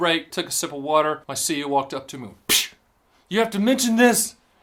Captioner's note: slap sound